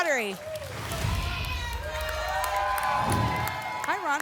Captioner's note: applause and cheering; whoosh